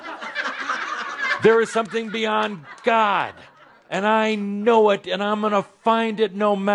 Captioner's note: laughter